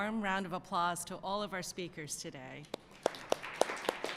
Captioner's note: applause